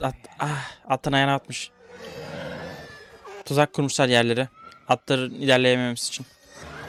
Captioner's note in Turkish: iç çeker